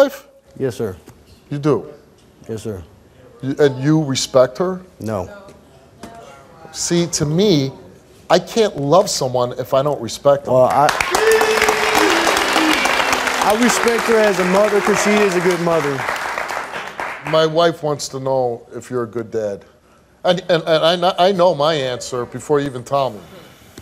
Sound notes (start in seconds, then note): 10.8 audience applauding